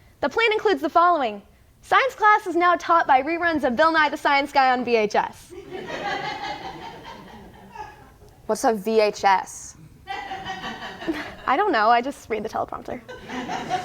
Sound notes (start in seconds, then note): 5.6 audience laughs; 10.1 audience laughs